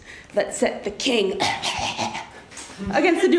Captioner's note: fake cough